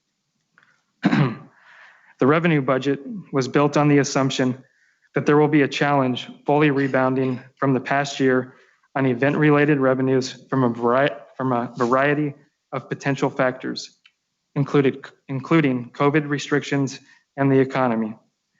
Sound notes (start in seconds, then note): 1.0 clears throat